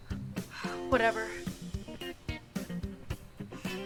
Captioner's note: sighs